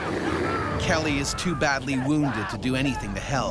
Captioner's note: voiceover